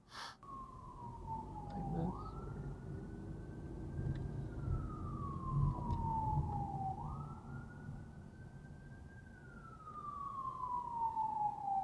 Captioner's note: siren approaching from behind